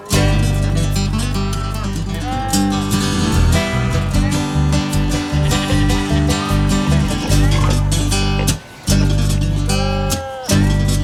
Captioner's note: nature sounds